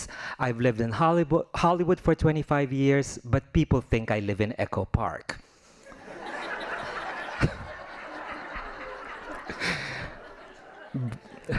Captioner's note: laughing